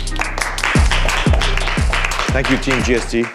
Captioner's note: all applauding